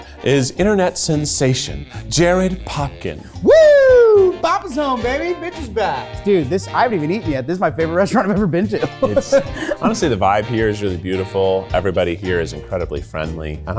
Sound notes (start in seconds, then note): 8.7 chuckles